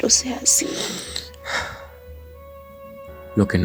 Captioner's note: sigh